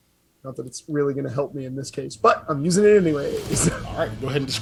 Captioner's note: laugh